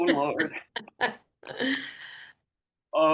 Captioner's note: chuckles